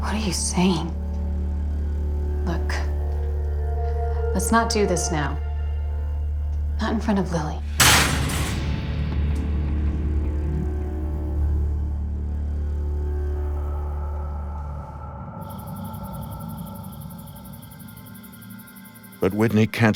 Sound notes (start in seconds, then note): 7.5 spoon slams; 8.7 eerie music